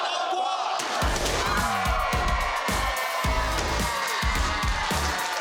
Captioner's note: crowd cheering